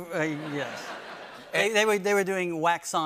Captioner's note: laughter